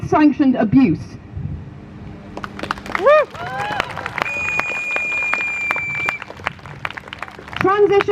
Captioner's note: crowd Cheers